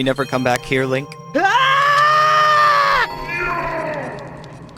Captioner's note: Link Scream